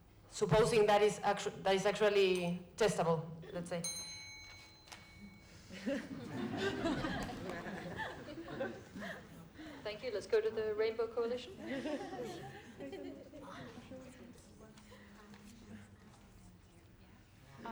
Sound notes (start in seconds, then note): 3.8 bell rings; 5.6 laughter